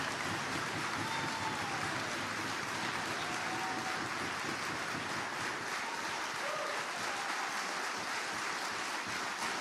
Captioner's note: applause